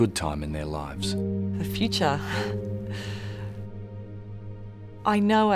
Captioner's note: inhales